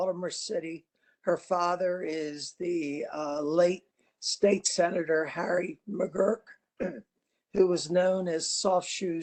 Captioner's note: cough